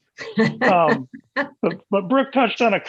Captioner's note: laughs